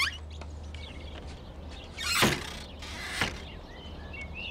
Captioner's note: door bangs